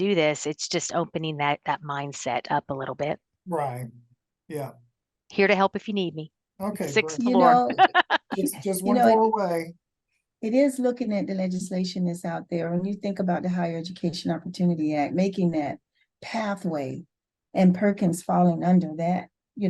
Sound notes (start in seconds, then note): 7.3 laughter